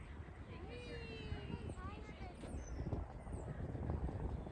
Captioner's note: kids chattering